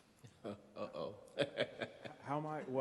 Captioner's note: laughs